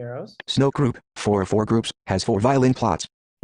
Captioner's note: voiceover